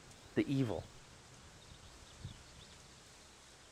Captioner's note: birds chirping